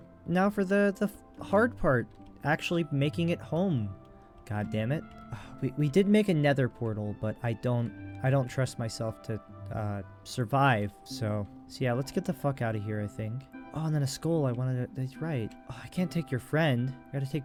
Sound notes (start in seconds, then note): 5.3 sigh